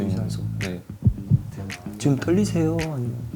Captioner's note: heart racing